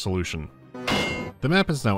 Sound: ding

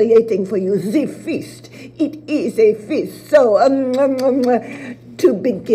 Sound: kisses

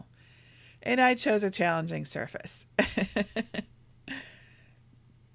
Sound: laughs

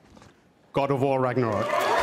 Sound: applause

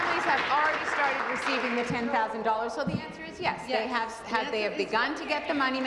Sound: applause

